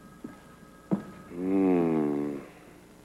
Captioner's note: ring